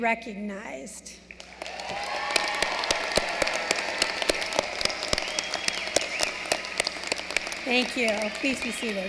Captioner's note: applause